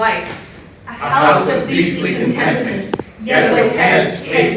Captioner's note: in Unison